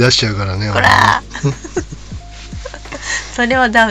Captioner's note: laughs